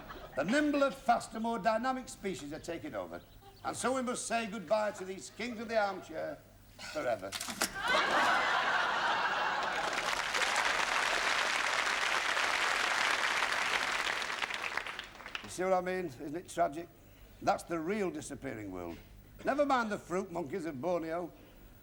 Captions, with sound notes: A nimbler, faster, more dynamic species are taking over. And so we must say goodbye to these kings of the armchair forever., (LAUGHTER) (APPLAUSE) You see what I mean? Isn't it tragic? That's the real disappearing world. Never mind the fruit monkeys in Borneo.